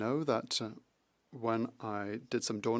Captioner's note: speaking French